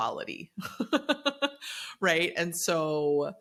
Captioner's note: laughs